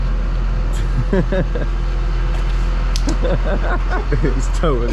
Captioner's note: laughing